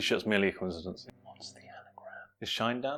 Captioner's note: whispers